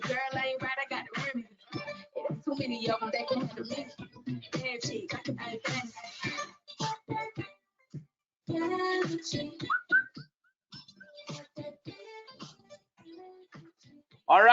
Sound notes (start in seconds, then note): 9.6 whistles